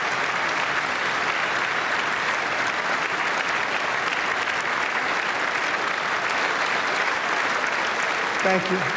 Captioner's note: applause